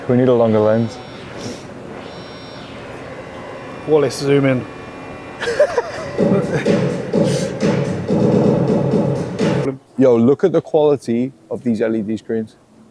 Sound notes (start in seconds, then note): 5.4 laughs